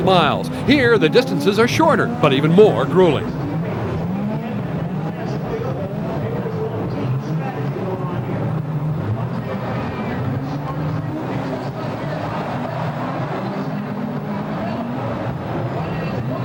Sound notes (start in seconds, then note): 4.5 engines rev; 12.3 crowd cheers